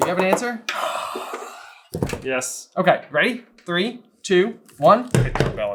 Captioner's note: siiiiiiiiiiiiiiigh